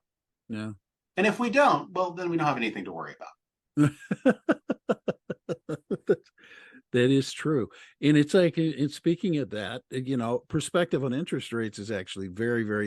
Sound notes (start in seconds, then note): 3.8 laughing